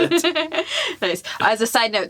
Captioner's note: laughs